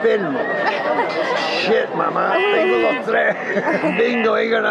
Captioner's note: laughing